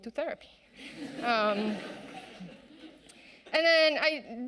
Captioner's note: audience laughing